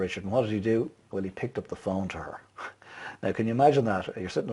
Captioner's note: laughs